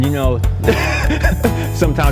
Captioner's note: laughs